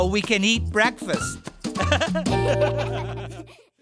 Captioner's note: laughing